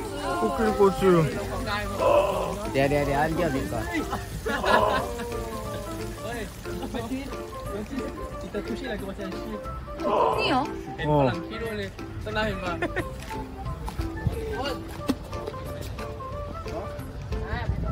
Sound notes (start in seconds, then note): 6.0 I hear the sound of shutting off the faucet